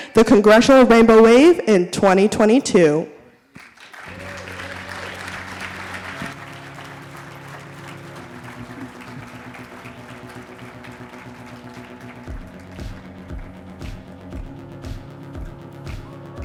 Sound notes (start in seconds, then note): 4.8 audience applauding; 7.8 upbeat music